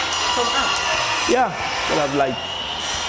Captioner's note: power tools whirring